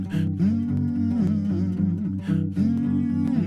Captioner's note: humming